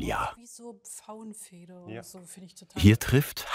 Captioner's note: quietly